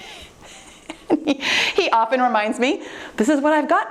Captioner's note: laughing